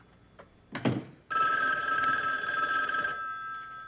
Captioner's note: phone continues ringing